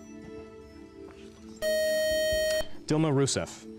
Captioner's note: beep